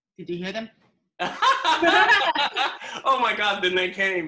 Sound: laughs

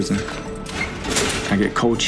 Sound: cell door opens

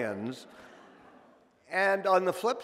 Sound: audience laughing

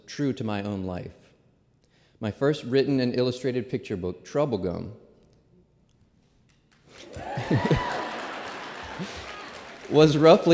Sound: applause

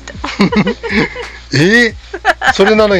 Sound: laughs

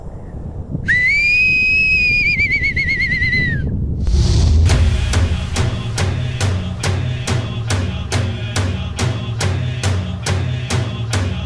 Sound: whistles

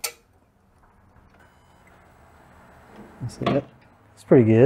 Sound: lights buzzing

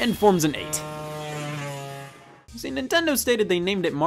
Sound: car buzzing

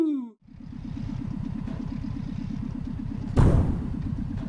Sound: spaceship flying

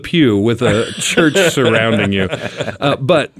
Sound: group laughing

